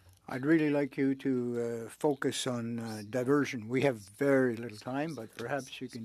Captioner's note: speaking French